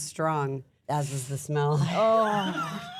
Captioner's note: laughs